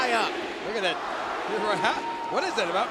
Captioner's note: crowd chanting